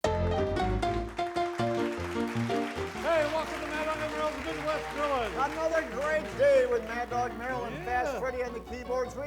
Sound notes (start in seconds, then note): 0.5 blues music; 1.4 audience clapping